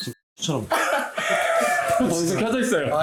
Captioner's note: ㅋㅋㅋㅋㅋㅋㅋㅋㅋㅋㅋㅋ